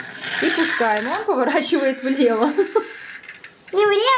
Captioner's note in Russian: смех